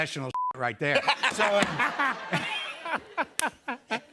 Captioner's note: laughs